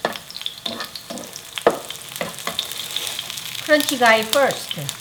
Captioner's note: tofu sizzling